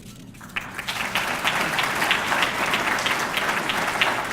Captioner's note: audience clapping